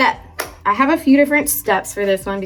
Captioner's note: hands clapping